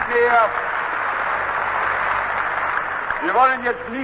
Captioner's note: applause